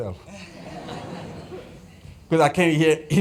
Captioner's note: laughter